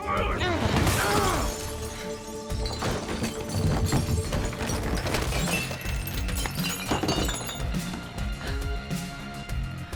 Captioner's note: bottles shatters